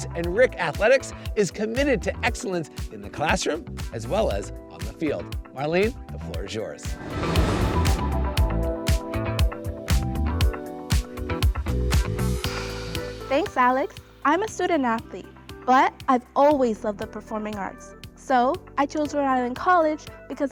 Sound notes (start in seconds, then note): 6.8 upbeat music continues; 6.9 graphics whooshing